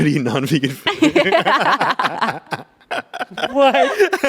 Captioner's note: everyone laughs